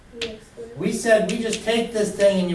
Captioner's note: voiceover